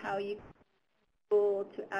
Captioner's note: mic stutters